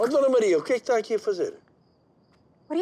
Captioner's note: speaking Portuguese